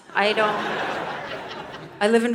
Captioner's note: audience laughing